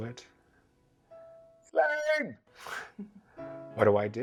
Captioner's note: chuckles